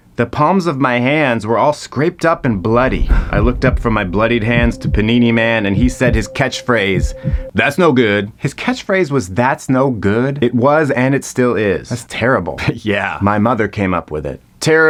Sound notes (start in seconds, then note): 2.6 intense music; 3.0 Patrick gasping